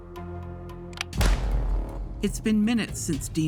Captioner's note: gun shot firing